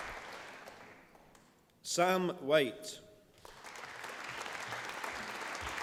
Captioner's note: applause